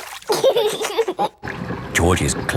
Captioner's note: giggling